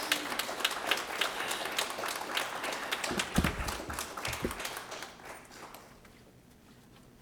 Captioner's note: applause